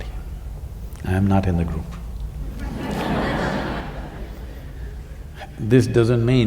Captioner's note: laughter